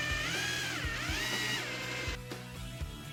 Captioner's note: drilling